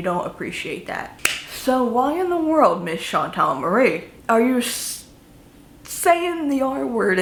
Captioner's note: claps